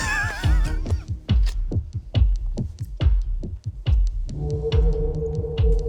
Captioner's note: people laughing; dramatic music continues